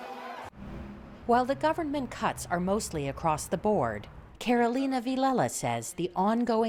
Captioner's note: voice-over